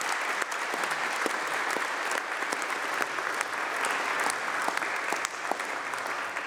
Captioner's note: applause